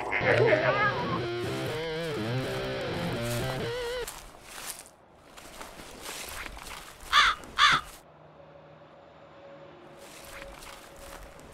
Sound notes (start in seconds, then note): 0.2 heavies metals guitars; 5.0 leaves rustling